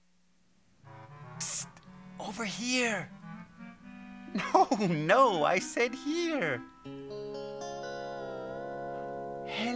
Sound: whispering

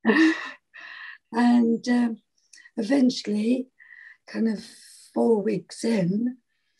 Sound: laughs

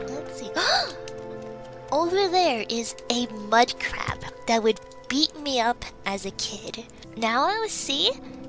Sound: gasp

